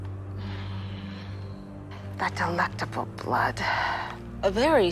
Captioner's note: sighs